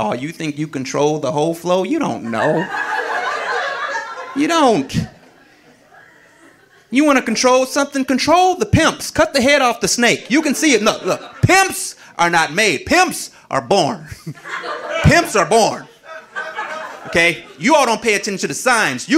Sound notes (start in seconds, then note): 2.2 audience laughing; 14.1 audience laughing